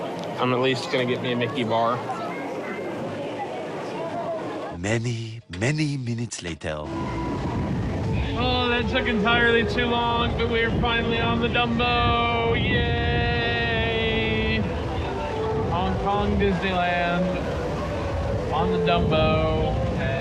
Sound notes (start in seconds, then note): none